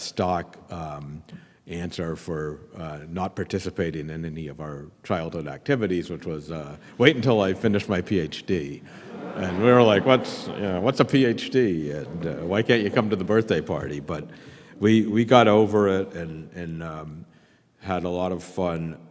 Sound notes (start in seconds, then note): 11.7 laughter